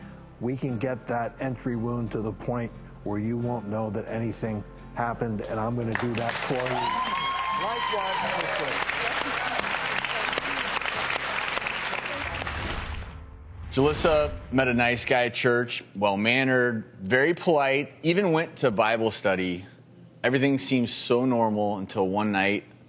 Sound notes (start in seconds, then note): 6.1 audience cheers